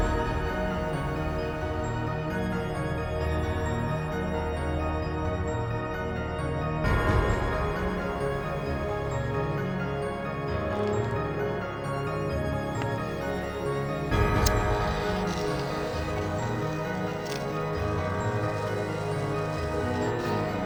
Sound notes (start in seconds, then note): 0.2 melodic orchestral music continues; 14.4 lighter clicking; 15.0 chalk scraping; 16.8 melodic orchestral music